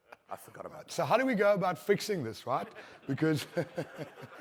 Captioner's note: laughter